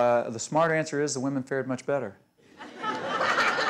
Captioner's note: laughter